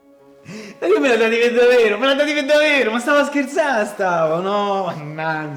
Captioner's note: laughs